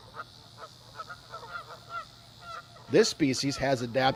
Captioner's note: canada goose sounds